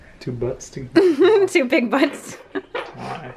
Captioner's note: giggles